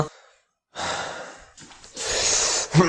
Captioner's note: sigh